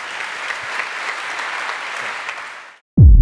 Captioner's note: applause